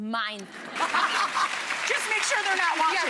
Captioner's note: audience clapping; Rachael and Leah laughing